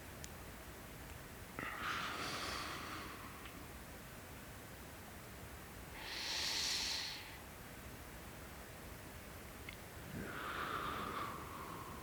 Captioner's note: breathing